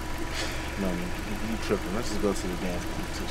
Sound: scoff

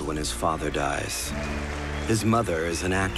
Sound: crowd applauding

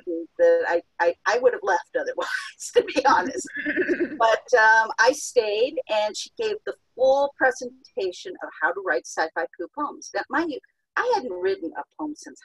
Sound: chuckles

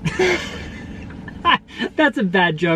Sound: laughing

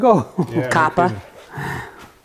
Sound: laughing

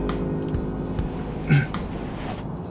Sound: clears throat

